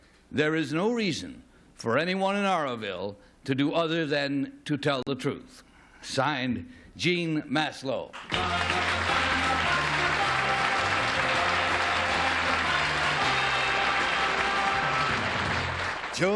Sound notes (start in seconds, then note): 8.1 applause; 10.7 theme music